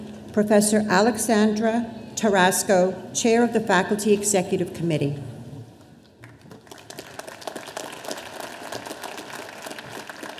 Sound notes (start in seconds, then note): 6.2 audience applauding